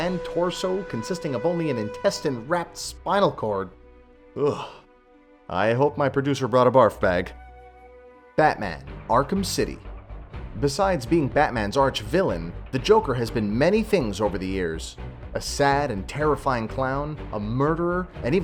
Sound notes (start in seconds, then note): 4.5 hard Swallow; 4.6 whisper; 6.7 end whisper